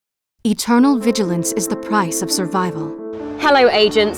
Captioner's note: voiceover